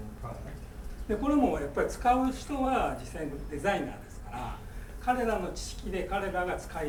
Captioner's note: speaking in foreign language